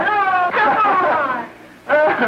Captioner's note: laughing